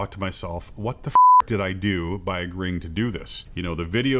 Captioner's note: beep